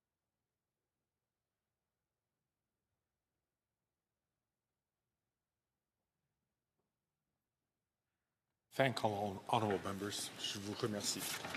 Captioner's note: speaking French